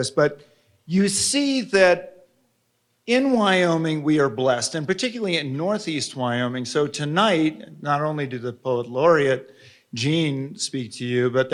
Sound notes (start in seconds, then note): none